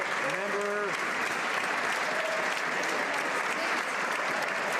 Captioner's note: some Applause